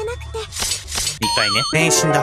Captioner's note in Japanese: 首を斬る音